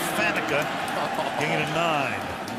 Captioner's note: laughs